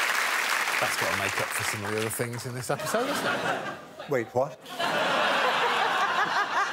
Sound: crowd applauds and cheers

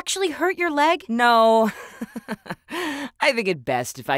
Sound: laughs

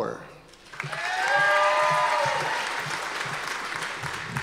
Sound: audience applause

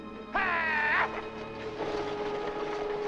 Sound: driver urging horses

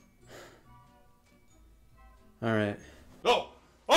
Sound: sighs

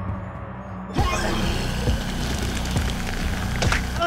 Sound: Dave vomits; gory popping sound

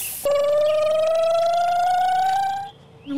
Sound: hiss; electric motor hum

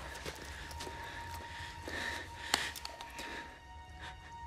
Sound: frightened panting

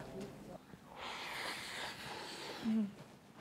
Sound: slurping

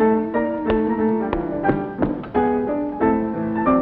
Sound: clapping stomping feet and dancing to music

